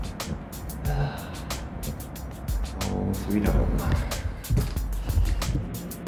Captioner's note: sigh